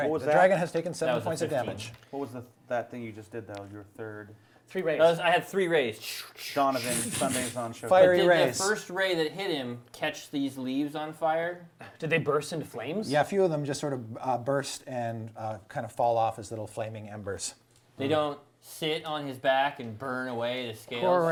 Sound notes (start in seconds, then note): 1.1 all chattering; 6.6 all chattering